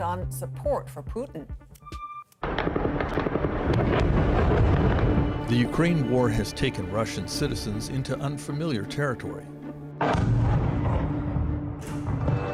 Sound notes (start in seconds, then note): 4.2 explosion